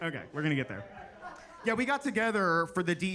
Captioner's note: attendees laughing